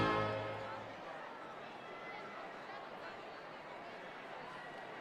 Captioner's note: audience chattering